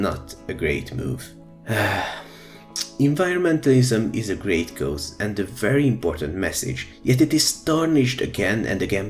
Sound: sigh

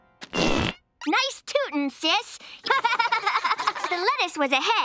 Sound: laughing

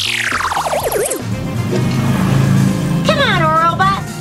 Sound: car engine

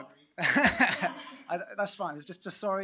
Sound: laughs

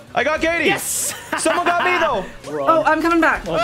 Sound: evil laugh

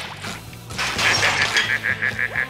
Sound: laughing

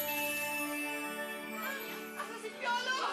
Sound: gasps

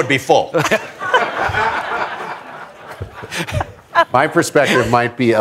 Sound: laughter

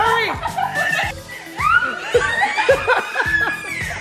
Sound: baby cries

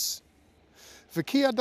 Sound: speaking Hebrew

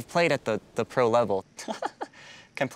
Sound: laughs

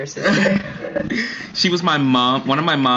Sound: both Laughs

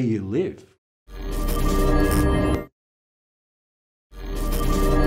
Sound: air buzzing

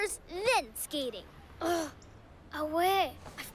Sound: groans

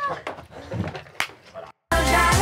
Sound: Jimmy laughs maniacally; hands slap

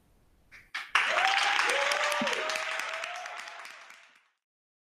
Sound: audience applauding

